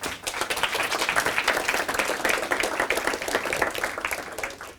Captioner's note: audience applause